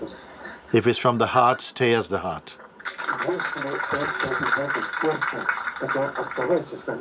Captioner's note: clapping